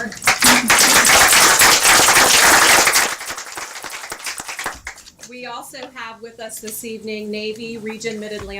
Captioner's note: applause